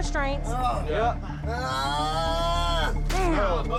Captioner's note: groaning